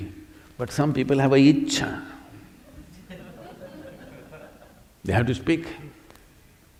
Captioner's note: laughs